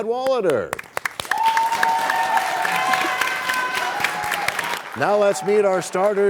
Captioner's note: cheers and applause